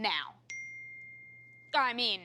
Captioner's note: phone beeps